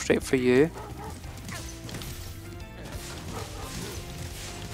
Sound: dogs bark

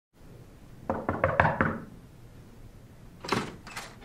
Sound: knocks

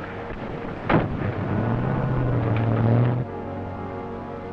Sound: engine revving; metallic thudding; tense music

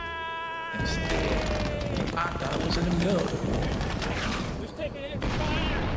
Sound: gunshots ringing

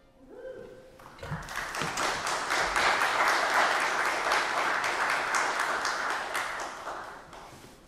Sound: applause

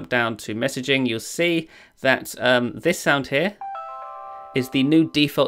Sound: phone chimes

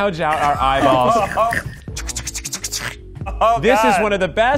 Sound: laughing

